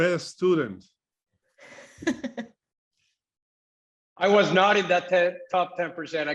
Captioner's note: laugh